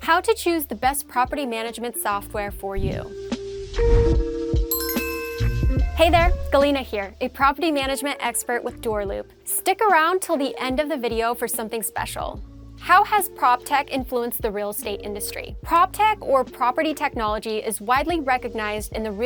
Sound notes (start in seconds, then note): 3.2 light music; 4.6 bell chiming